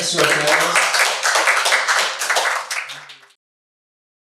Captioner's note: audience applauding